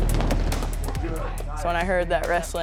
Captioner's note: whistle blowing